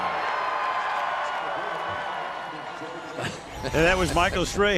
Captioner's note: cheering